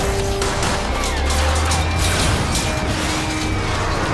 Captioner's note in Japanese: 銃声